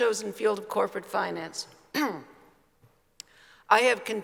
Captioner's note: clears throat